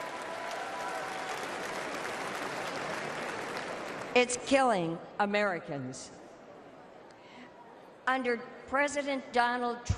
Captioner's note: applause